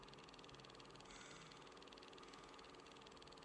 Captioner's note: none